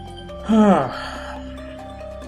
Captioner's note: sighs